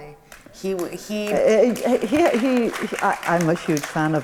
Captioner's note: audience applauds